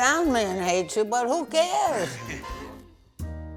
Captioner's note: chuckling